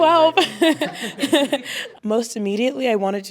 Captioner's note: laughter